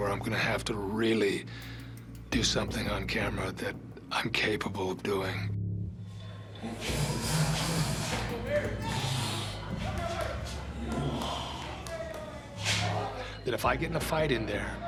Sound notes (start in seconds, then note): 6.7 inmates shouting in background; 9.2 exhales deeply